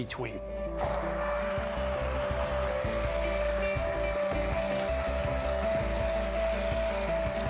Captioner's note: immersion blender whirring